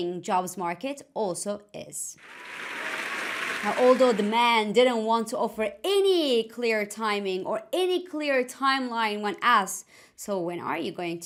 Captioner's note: applause